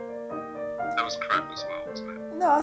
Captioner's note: hugo, on phone